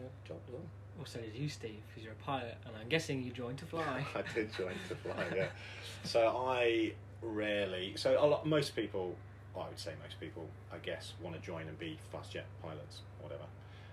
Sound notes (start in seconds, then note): 7.0 laughter